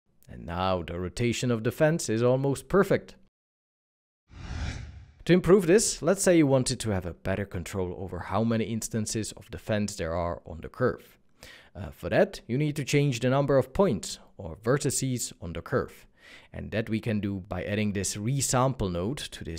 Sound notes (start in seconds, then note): 4.3 whooshing